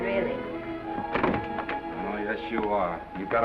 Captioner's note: doors open